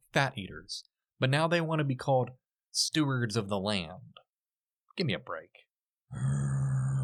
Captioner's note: growls